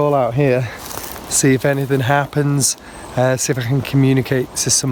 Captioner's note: leaves rustling